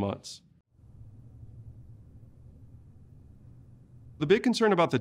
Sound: silence

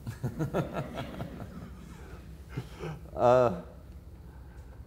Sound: audience laughter

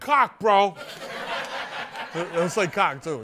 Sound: laughter

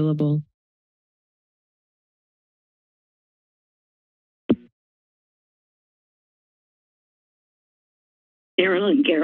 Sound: silence

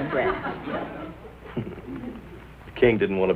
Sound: chuckles

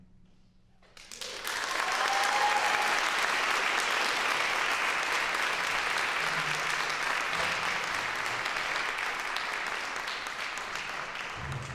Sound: applause

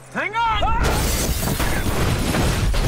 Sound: crashing, shattering

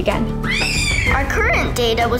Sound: screaming

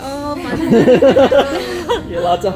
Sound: laughing

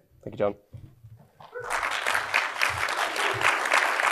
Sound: applause

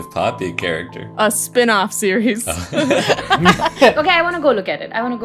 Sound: laughter

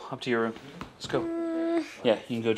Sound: groaning

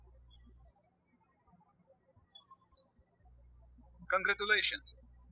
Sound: birds chirping

